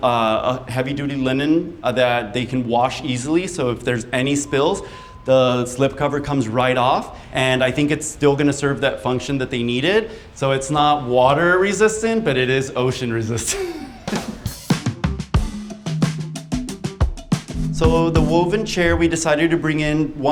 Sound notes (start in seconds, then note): 13.4 laughing; 14.5 upbeat music